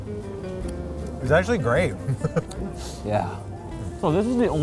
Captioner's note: chuckles